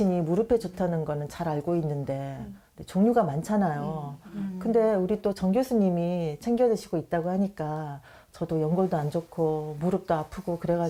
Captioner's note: voiceover